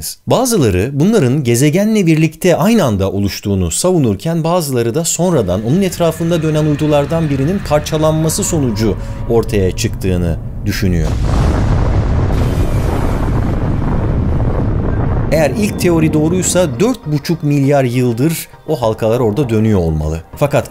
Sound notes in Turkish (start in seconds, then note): 11.5 Patlama Sesi